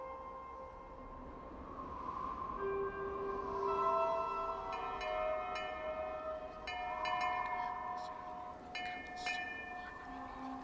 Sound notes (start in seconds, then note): 0.2 wind blowing; 4.7 bell clangs; 7.2 whispering voices